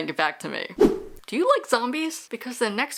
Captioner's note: whoosh